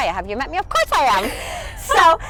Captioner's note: laughs softly